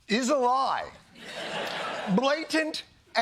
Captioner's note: laughter